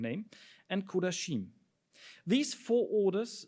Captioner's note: speaks in foreign language